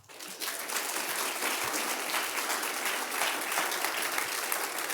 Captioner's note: applause